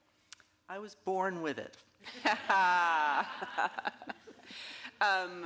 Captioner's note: all laughing